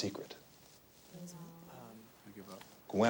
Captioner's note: students murmur